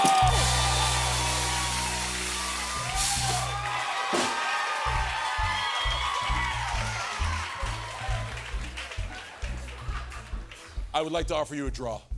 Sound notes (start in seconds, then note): 0.2 cheering and applause; 0.2 rimshot; 3.0 cheering intensifies